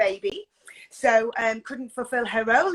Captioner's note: none